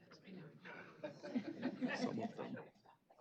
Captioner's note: laughter